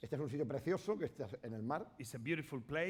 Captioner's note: speaking spanish